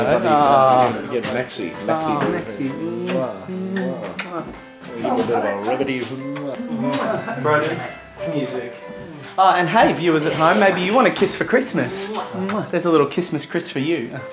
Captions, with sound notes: - Get Maxie. - Oh, Maxie. (audible kisses) - Give him a bit of a ribbidy hoo. (audible kiss) - Broden Hey, viewers at home Maybe you want a kiss for christmas. (audible kiss) There's a little kissmas chris for you.